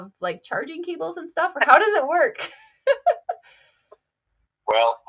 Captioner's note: chuckles